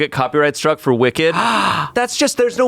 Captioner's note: gasps